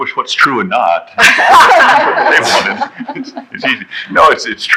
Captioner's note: laughing